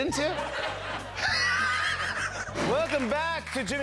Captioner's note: laughter